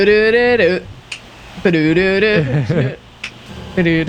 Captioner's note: humming